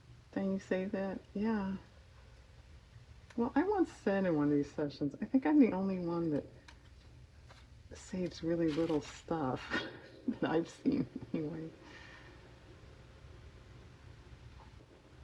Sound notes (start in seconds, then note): 9.3 laughs